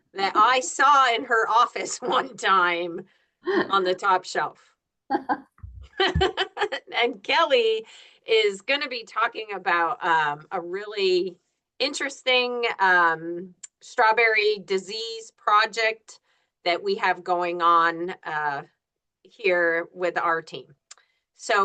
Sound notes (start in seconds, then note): 5.9 group laughs